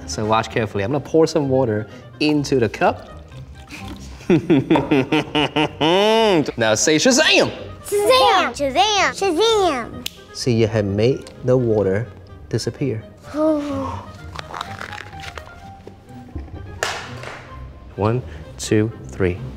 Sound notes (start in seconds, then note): 4.2 laughs; 13.3 gasps